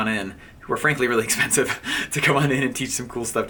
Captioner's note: laughing